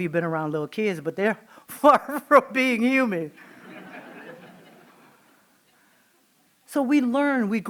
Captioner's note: laughing